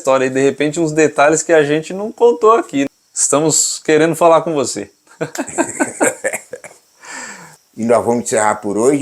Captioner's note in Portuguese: risos